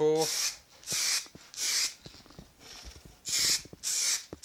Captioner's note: spraying